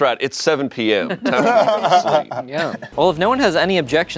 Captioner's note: laughing